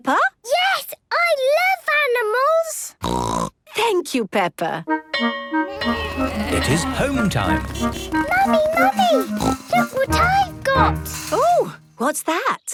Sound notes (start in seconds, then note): 3.0 snorting; 5.7 bell clanging; 5.7 honking